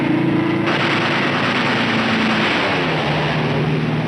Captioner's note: gunshots